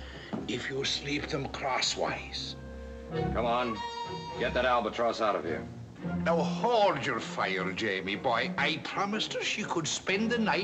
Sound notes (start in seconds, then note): none